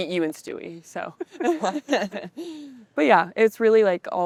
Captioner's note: women laughing